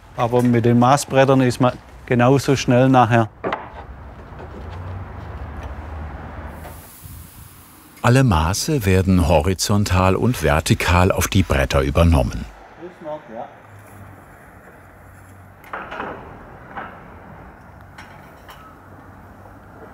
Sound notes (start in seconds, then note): 12.6 traffic noise, snatches of conversation